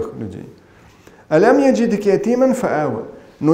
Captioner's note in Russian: Говорит на арабском